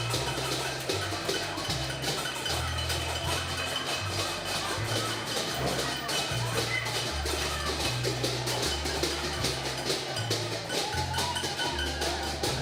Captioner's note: cheering